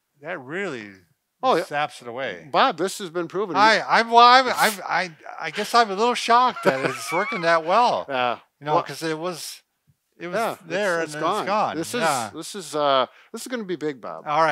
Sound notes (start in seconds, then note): 6.2 laughing